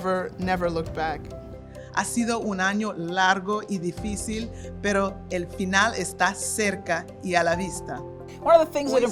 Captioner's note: speaking spanish